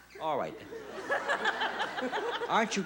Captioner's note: laughs